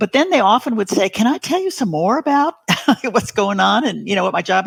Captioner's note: laughs